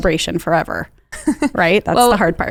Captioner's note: chuckles